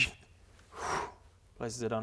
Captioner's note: wrrrr